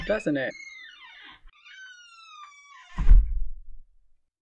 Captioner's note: squeaky hinges, door closing